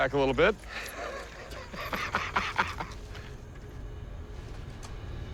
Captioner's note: laughs